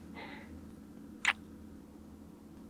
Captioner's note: kiss